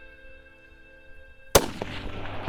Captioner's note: gunshot